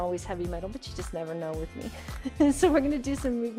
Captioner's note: chuckles